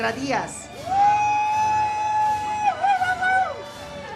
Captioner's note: audience cheers